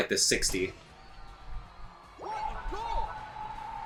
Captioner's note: cheering